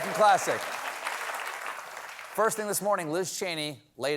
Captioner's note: applause